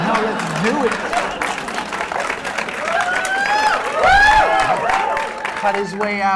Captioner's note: laughter